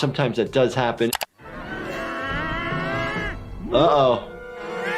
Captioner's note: growling